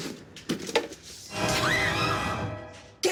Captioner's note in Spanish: Gritos